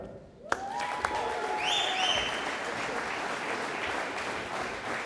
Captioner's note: audience applauding